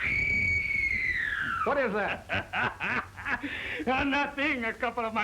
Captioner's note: screaming